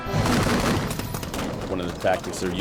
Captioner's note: gunfire